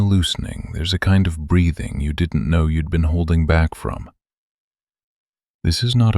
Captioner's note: gentle, unhurried